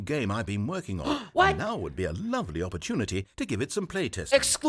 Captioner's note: gasps